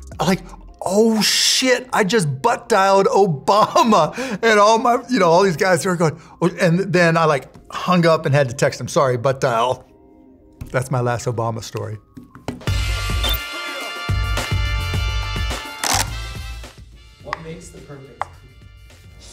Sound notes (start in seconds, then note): 12.6 upbeat music; 13.1 beeping; 13.7 upbeat music